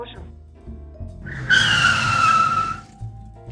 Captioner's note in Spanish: Frenazo